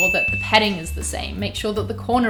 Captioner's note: bell dinging